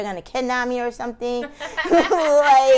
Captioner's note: laughing